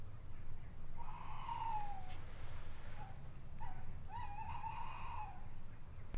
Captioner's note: owl hoots